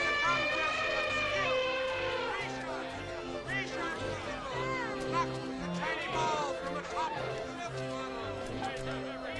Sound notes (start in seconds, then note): 0.0 elephant trumpets; 3.7 carnival workers barking